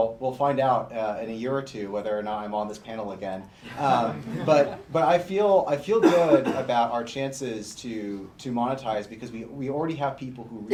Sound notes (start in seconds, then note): 3.7 laughter